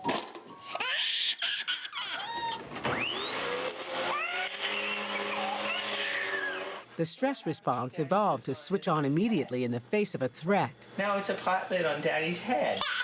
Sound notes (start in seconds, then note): 0.7 baby screams and cries; 2.6 vacuum cleaner starts; 5.7 baby cries